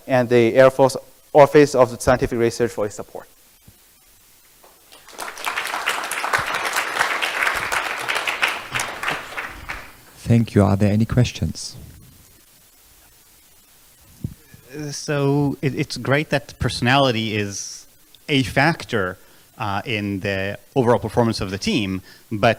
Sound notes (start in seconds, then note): 4.6 applause